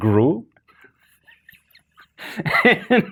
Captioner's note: hosts laughing